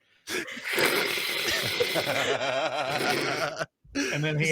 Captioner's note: laughing